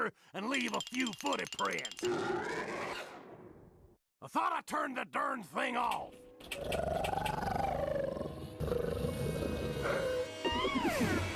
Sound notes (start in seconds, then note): 2.1 growling; 6.5 growling; 9.7 gulping